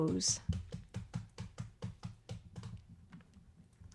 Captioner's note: taps